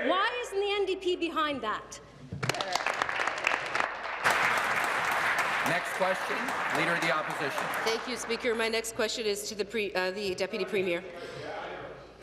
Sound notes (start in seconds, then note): 5.3 applause